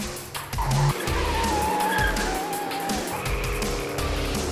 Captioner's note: tires squealing